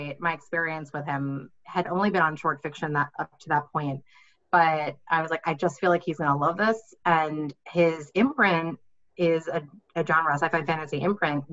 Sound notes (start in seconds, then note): none